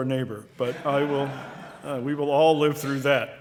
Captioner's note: audience laughing